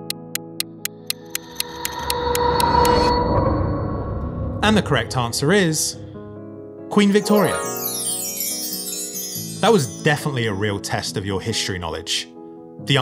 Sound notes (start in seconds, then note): 0.0 clock ticking; 2.3 dramatic music; 7.0 chiming music